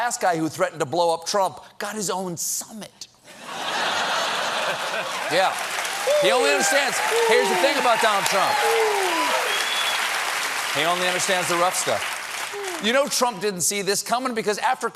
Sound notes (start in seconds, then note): 3.3 laughter; 4.3 applause